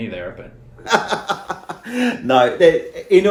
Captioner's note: laughing